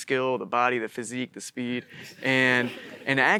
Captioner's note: audience laughing